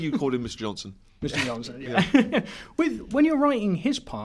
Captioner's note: laughs